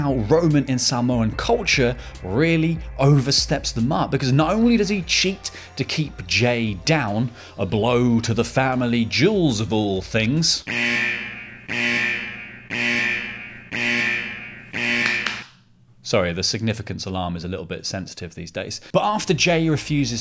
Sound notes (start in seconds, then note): 13.6 alarm